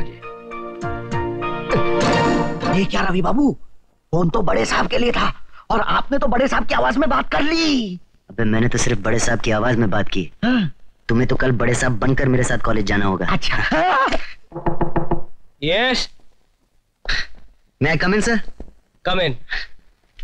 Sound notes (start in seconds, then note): 13.8 yell; 14.5 knock On Door; 17.0 sighs